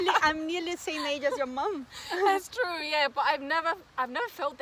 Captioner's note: risos; risos